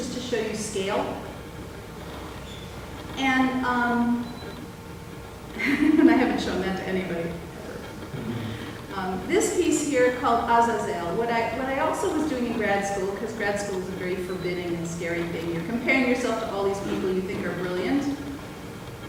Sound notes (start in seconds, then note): 5.6 laughs